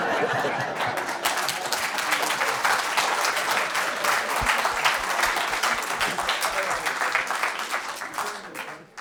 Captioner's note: audience Laughter; applause